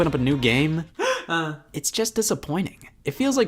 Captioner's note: sad sob